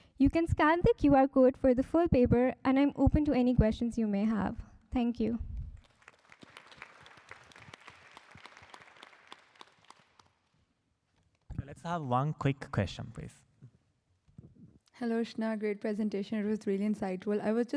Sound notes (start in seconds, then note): 5.7 applause